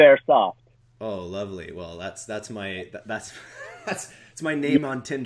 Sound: laughs

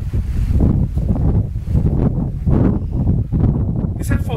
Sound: wind blowing loudly

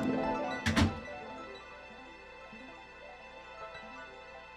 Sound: door slamming

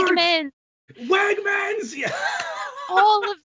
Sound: laughs

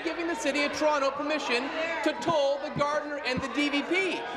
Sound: applause

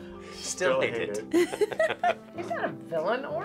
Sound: both laugh

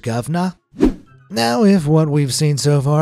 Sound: screen wipe whooshes

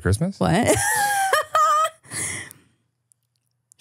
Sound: laughs

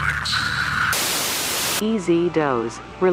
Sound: TV static buzzes

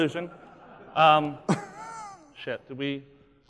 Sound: laughing

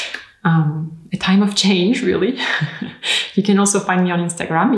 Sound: laughs

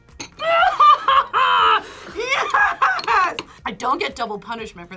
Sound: laughs

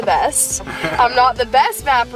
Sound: dad laughs

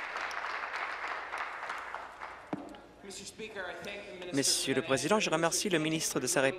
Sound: applause

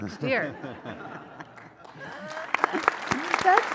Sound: laughing; audience applauds

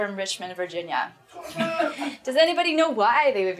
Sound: group laughs

